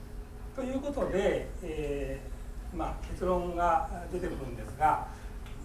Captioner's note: speaking in foreign language